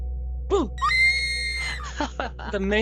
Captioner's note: screaming; Sai Laugh